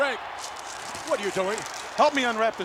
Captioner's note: paper rustling